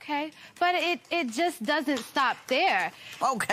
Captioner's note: applause